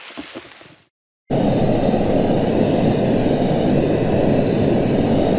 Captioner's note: stove noise